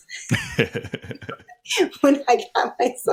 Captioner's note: both laughing